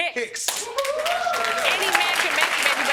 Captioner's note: audience cheering